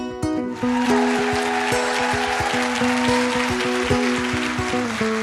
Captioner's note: audience applauding